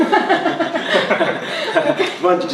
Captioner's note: laughing